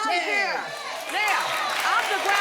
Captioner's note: audience cheering